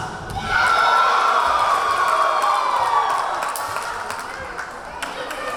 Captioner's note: cheering; clapping; yelling